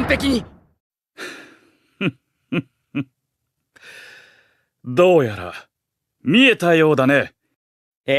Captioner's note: laughs